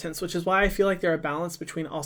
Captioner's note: none